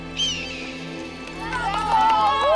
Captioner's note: eagle screeching; all cheering